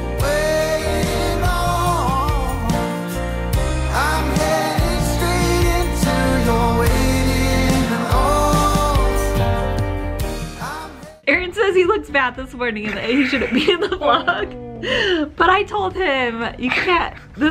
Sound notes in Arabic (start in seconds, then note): 12.8 يضحك